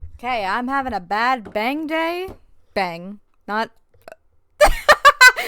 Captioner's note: laughs